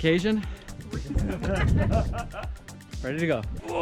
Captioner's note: laughing